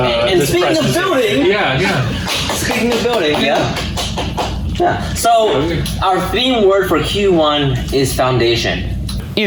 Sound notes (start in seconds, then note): 2.7 applauding